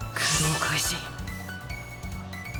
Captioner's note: battle cry